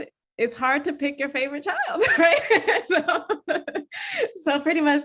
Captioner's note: laughs